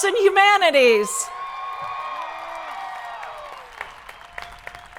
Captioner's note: crowd applauding